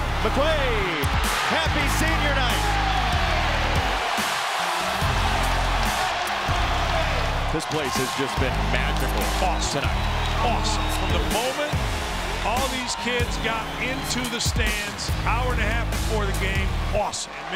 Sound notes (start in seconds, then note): 3.6 audience cheers